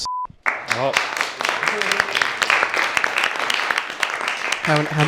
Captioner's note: applause